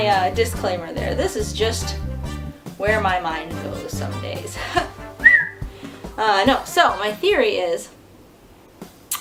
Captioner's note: huh, whistle